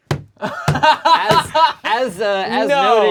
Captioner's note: group laughs; laughs